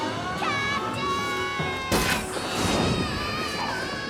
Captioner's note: Captain Flamingo screams